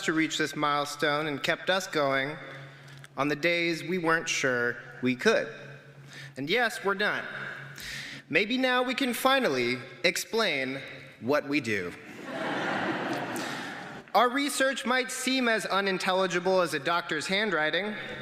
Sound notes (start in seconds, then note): 12.1 laughter